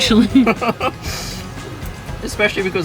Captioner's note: laughing